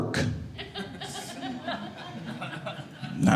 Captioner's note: audience laughing